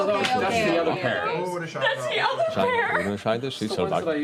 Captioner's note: laughter